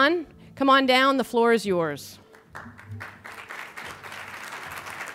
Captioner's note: applause